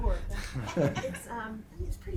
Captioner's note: laughing